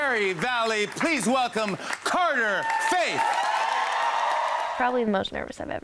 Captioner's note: crowd cheers